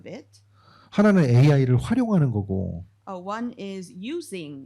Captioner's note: speaking korean